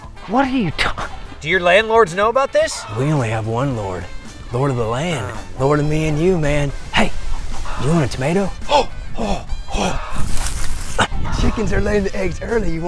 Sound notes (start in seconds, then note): 8.6 gasps